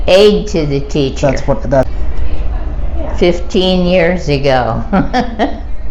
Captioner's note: laughing